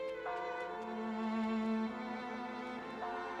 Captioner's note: bell tolling